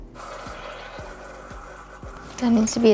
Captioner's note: Keurig sputters